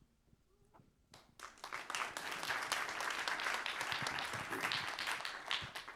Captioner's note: applause